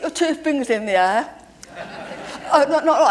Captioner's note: laughter